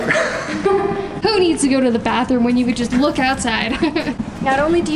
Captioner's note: laughs